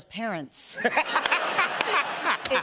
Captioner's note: laughter